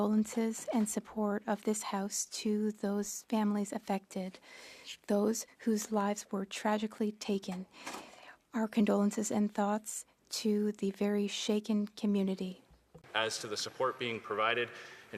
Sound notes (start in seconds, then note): 2.5 speaking French